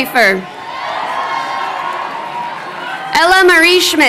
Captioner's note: crowd cheering